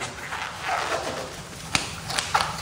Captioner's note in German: Knarzen